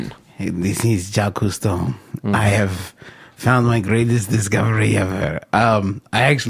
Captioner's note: bad French accent